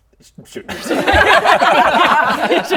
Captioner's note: bullying laughter